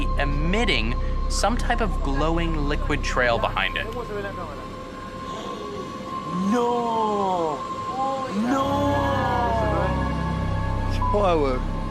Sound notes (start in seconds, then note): 8.0 people exclaiming